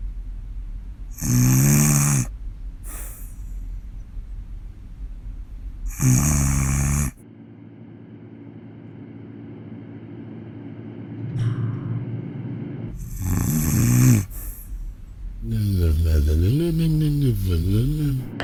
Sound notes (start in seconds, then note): 1.1 snoring; 5.8 snoring; 12.9 snoring